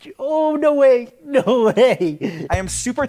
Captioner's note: laughs